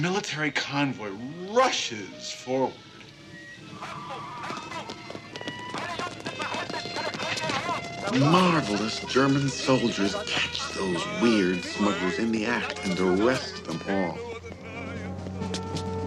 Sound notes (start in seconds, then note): 5.0 Man shouting in German, footsteps, siren wailing